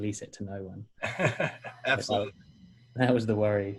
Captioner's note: laughing